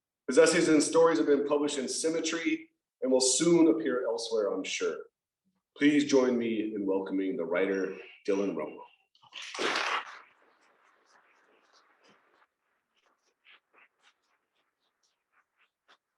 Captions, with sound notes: His essays and stories have been published in Symmetry and will soon appear elsewhere, I'm sure. Please join me in welcoming the writer, Dylon Romo. [applause]